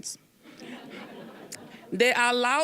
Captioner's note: audience laughing